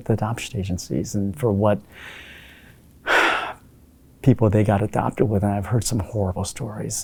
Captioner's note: sighs